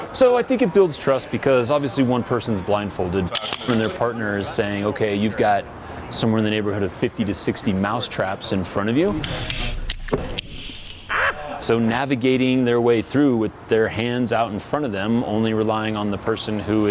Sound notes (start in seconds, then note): 3.4 mousetrap snaps; 9.5 mousetraps snapping; 11.1 man screams